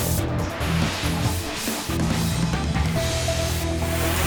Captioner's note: air whooshing